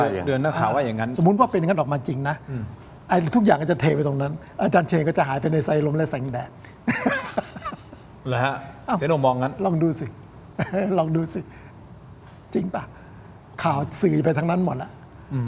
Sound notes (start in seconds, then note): 6.8 laughter